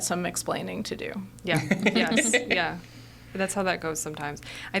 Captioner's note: laughing